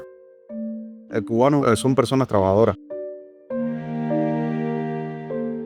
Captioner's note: speaker speaking in Spanish